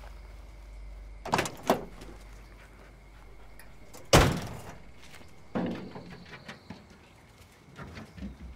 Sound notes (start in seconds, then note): 3.9 car door slamming